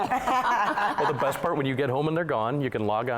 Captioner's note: laughter